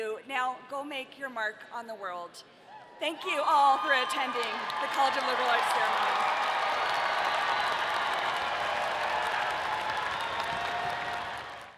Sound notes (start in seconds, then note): 6.9 audience applauding